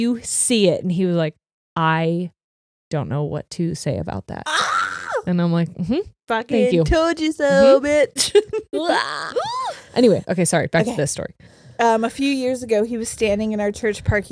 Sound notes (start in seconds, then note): 4.4 shrieks; 8.9 screams